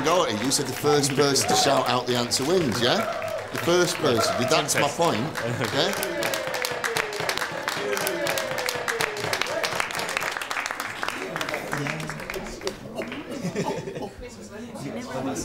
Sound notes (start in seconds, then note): 7.1 cheering and clapping